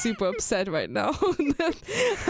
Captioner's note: both laugh